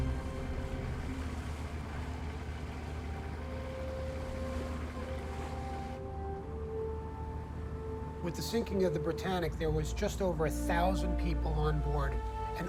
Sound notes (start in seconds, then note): 0.6 boat engine rumbling; 3.1 somber music